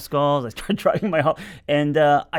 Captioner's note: laughs